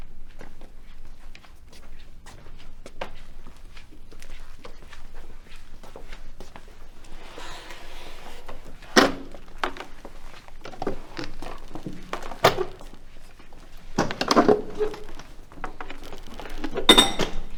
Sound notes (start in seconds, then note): 6.4 tray scuffs; 14.0 chairs plunking